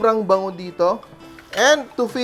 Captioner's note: sizzle; clang